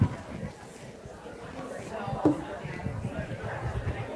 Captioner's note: people chattering